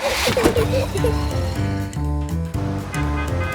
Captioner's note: all giggle